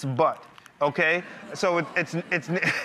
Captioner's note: crowd laughs uncomfortably; laughs